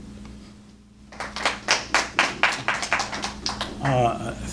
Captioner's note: applause